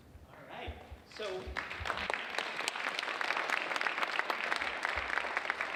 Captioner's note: audience applauding